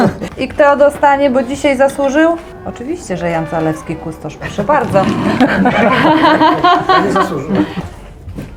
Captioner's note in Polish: śmiech; śmiech